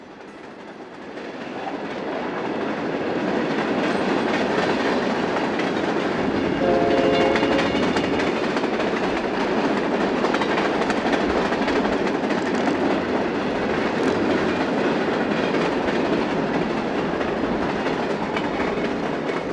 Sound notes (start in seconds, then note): 3.5 train rumbling